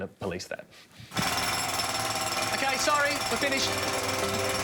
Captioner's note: loud construction equipment sounds